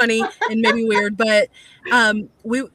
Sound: laughs

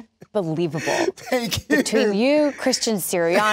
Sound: laughing

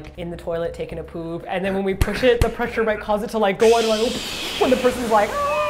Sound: exploding sound

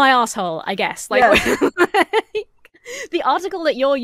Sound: laughs

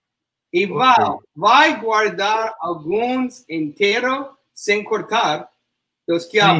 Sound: speaks portuguese

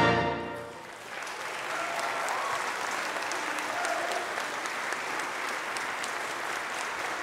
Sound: congregation cheering; congregation applauding

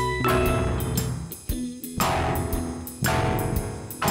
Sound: keyboard slams

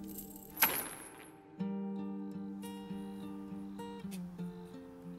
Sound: necklace clattering

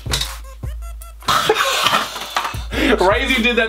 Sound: hacking and laughter

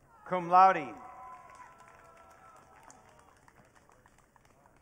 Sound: audience cheering

